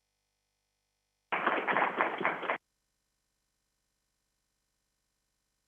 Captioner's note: crowd applauding